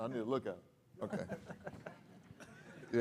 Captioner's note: laughter